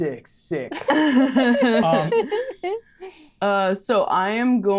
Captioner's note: group chuckling